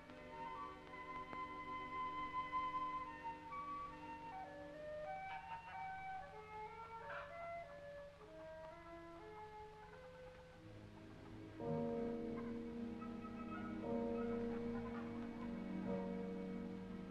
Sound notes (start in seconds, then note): 7.0 ducks quacking; 12.0 church bells ringing; 12.0 men chattering